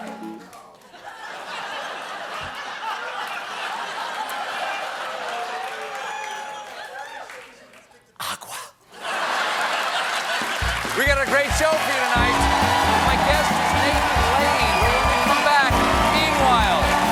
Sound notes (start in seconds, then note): 0.0 cheers and applause; 5.2 gagging; 5.2 laughter